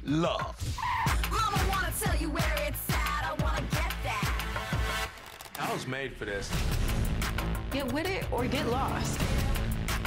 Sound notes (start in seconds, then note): none